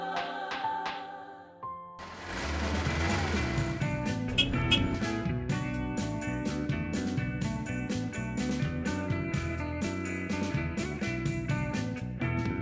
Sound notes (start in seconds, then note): 2.7 upbeat music; 4.2 vehicle hooter